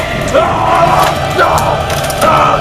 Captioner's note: maniacal war cry